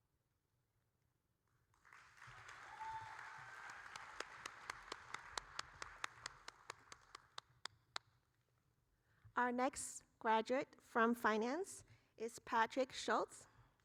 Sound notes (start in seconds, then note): 2.3 audience cheering; 3.9 applauding